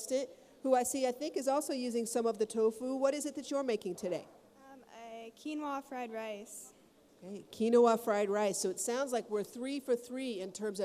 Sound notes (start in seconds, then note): none